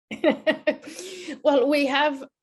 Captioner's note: laughs